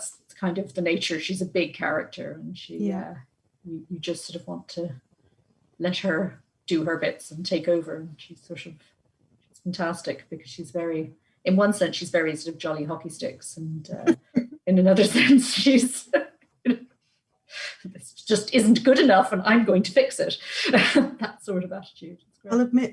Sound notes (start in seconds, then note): 17.4 laughs